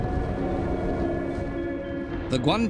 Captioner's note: heavy winds